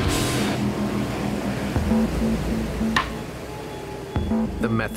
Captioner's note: rock music; water sloshing